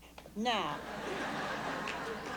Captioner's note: laughter